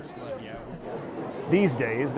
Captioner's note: attendees chattering